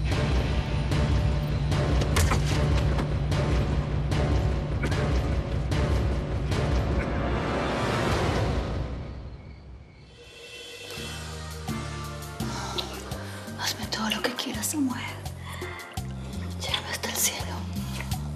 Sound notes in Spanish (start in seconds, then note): 6.3 golpes; 6.3 quejidos